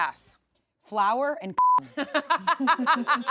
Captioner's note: beep; everyone laughs